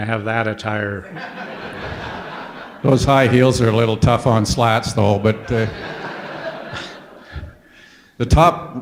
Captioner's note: audience laughter